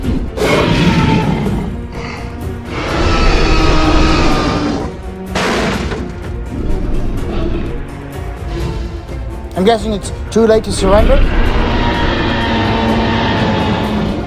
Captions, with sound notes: (roaring) (crash sound) I'm guessing it's too late to surrender?